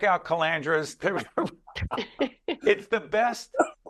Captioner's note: laughing